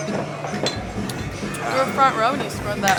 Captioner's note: glasses clanking over rhythmic hard rock music